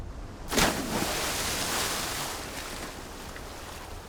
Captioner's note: water splashing